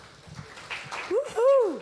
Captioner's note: audience applauding